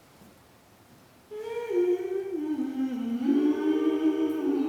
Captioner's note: humming